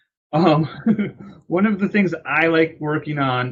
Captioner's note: laughs